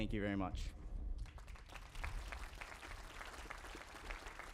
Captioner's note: applause